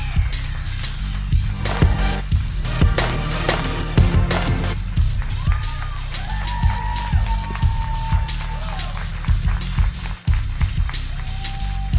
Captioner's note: cheers and applause